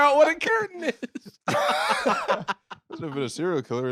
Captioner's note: both laughing